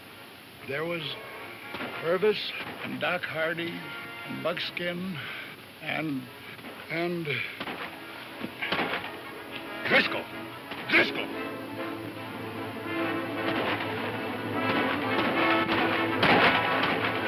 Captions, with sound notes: - There was Purvis and Doc Hardy, and Buckskin and, and. - Driscoll, Driscoll! (guns firing)